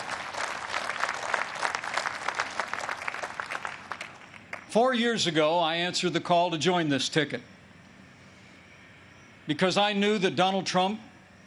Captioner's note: applause